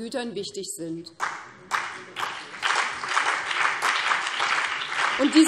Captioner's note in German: Beifall BÜNDNIS 90/DIE GRÜNEN und CDU